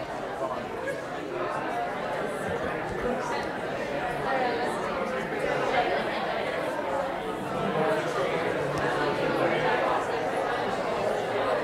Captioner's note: audience chatter